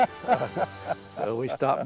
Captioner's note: laughs